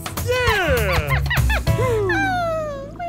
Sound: laughing

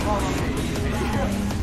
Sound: chuckle

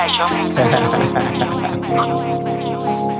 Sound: laughs

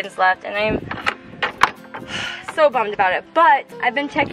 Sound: sighs

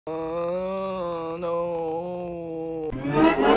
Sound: intense Moaning

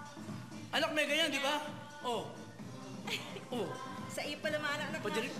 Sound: mom chuckles

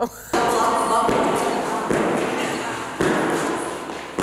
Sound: feet tapping

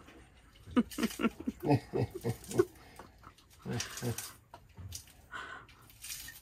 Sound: laughter

